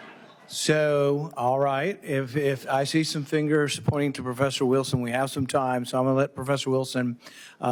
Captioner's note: laughter